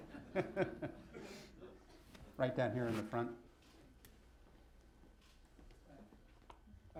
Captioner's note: laughter